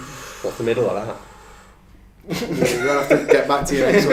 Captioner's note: sucking air